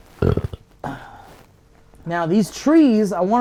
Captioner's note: belches; sighs